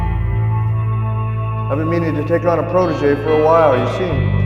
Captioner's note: voice-over